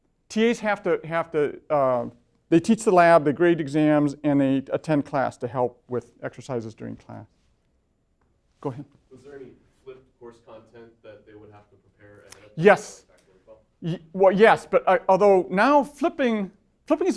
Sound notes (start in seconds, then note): 9.2 voiceover